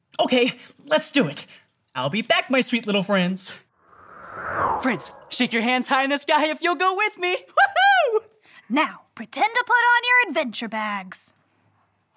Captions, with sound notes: - Okay, let's do it. I'll be back, my sweet little friends. (air whooshing) Friends, shake your hands high in the sky if you'll go with me. Woo-hoo. - Now, pretend to put on your adventure bags.